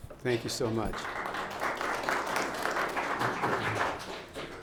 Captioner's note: audience applauds